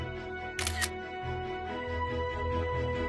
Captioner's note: camera shutter sound